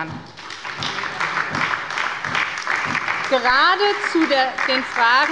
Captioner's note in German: Beifall bei der SPD und der LINKEN